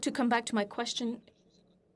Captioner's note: speaking FRENCH